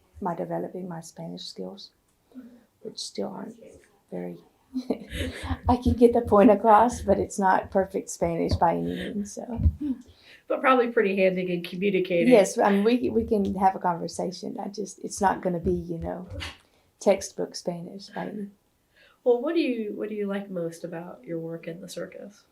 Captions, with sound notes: in developing my Spanish skills, which still aren’t very—I can get the point across, but it’s not perfect Spanish, by any means. (Laughs) But probably pretty handy in communicating? Yes, we can have a conversation. It’s not going to be textbook Spanish. What do you like most about your work in the circus?